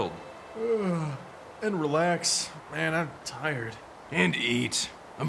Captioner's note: yawns